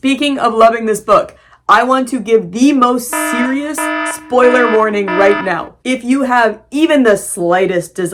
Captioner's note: alarm blaring